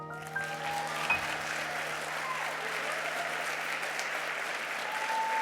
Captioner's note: audience clapping and cheering